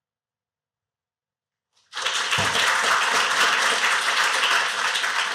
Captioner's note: applause